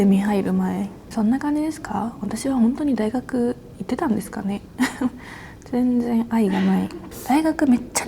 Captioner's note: laughs